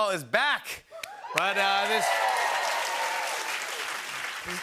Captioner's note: cheers and applause